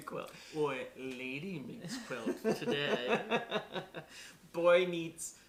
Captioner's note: laughter